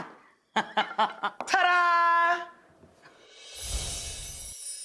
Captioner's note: Rachael giggles